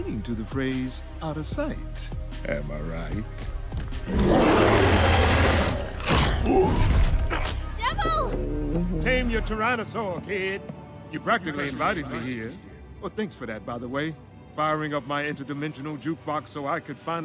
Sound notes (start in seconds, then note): 4.0 roars; 6.6 chomps, grunts